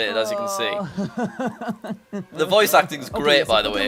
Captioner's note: spanish video plays in background